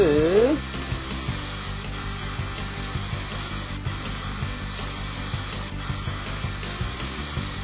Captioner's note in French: bruit d'aspirateur